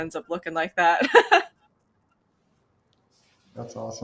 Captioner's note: laughs